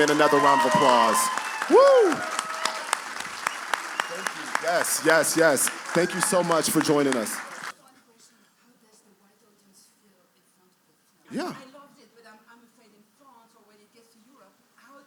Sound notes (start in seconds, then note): 2.1 cheers and applause